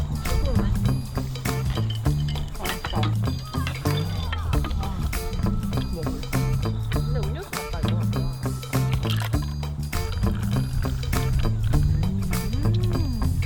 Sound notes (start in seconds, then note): 1.6 chatting away